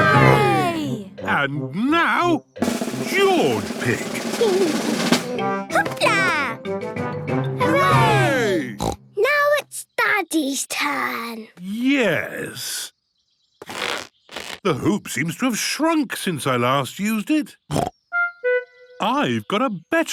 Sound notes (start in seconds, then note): 2.6 drumroll; 8.7 snort